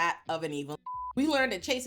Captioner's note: beep